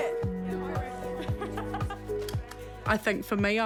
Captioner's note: chuckles